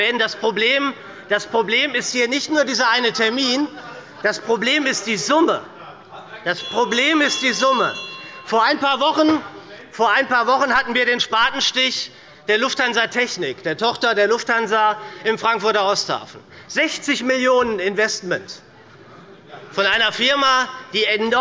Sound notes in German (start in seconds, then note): 8.3 Unruhe – Glockenzeichen des Präsidenten